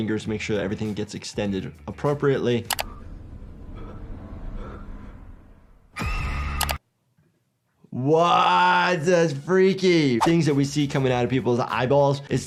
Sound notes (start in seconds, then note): 2.8 heavy breathing; 5.9 child screaming